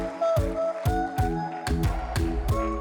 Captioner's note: applause